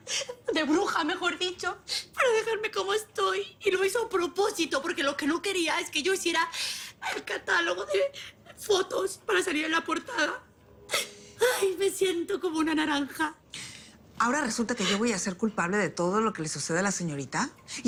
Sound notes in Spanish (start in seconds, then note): none